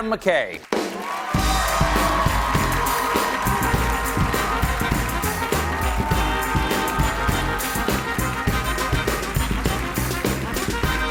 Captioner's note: cheers and applause